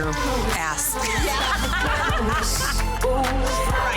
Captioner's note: laughing